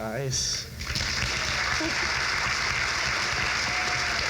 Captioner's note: crowd claps